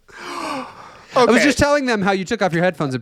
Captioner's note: laughing